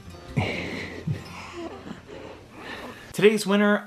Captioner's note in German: lacht